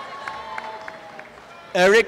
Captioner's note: applause and cheering